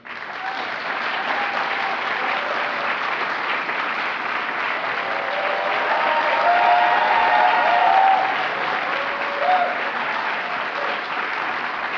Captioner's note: applause